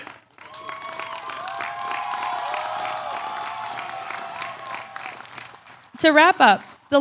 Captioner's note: applause